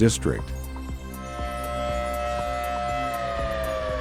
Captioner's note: siren